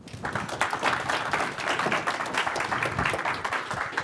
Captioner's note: audience applauding